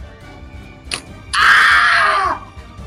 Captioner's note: guttural screech